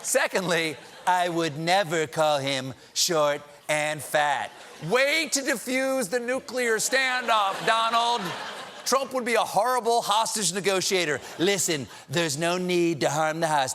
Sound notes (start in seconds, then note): 0.4 laughter